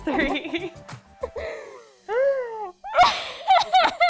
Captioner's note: laughing